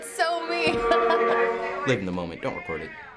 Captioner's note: cracks up; laughs